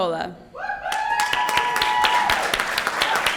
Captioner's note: cheers, applause